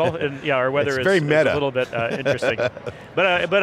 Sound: laughing

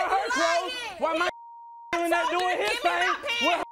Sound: beep

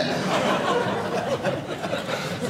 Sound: audience laughing

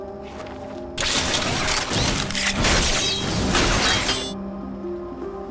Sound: mechanical noises

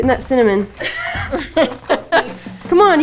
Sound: laughs

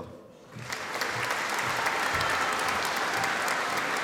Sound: audience applauding

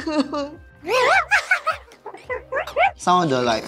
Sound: evil laughter

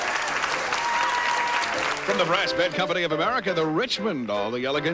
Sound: audience applauding

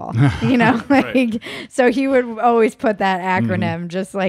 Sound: laughs

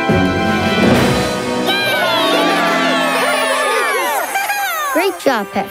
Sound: cheering

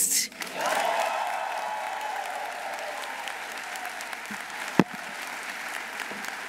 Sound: audience applauding; audience cheering

